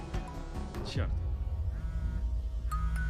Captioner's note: cellphone vibrating; ringing continues